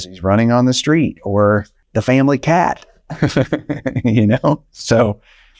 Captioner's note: chucking